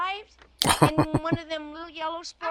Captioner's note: chuckling